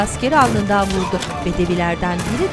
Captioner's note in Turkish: İnleme sesi